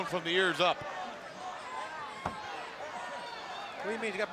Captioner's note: crowd chatter